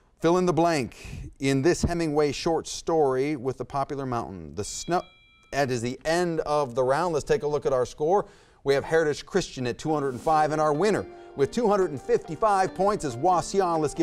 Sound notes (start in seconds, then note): 4.8 timer dings; 11.1 intense music